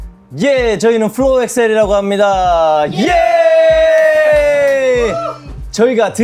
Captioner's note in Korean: 환호